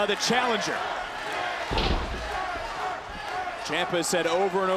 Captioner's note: body thudding